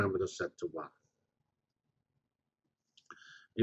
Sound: pause

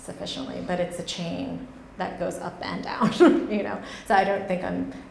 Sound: laughs

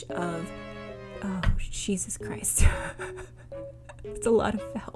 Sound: exasperated laugh

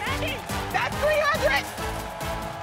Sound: cheers and applause

